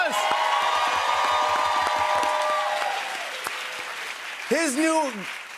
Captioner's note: cheers and applause